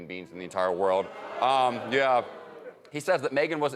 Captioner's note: audience applauding